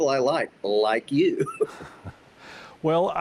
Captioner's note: both laugh